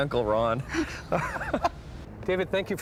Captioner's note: laughing